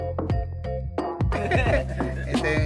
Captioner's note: laugh